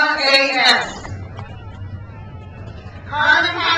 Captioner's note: crowd cheers